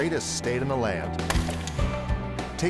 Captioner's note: wood cracking